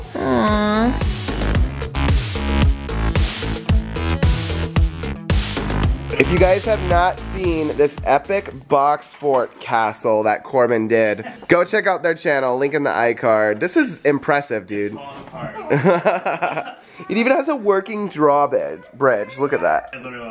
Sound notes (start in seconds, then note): 0.0 techno music; 15.6 laughs